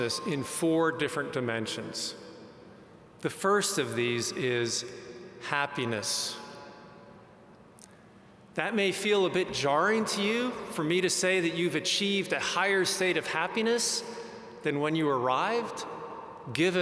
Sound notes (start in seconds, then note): none